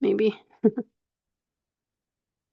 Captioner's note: chuckles